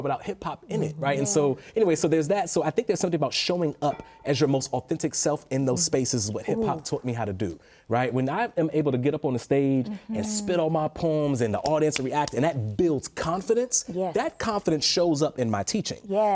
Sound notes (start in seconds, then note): none